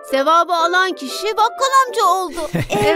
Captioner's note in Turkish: gülerek